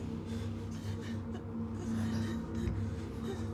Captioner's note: heavy breathing